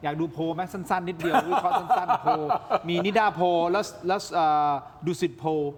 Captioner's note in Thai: เสียงหัวเราะ